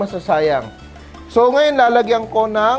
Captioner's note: sizzle